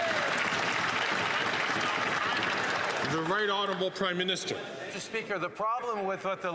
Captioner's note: some Applause